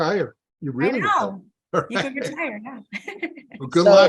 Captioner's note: laughs